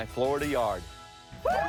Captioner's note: people cheering